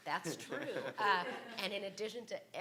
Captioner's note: laughs